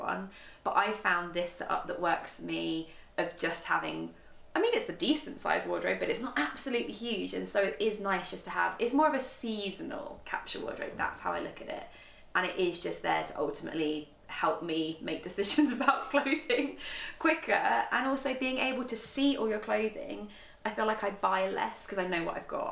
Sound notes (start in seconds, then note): 15.8 laughs